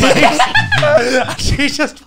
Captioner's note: laughs